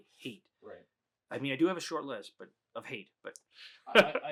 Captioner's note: laughs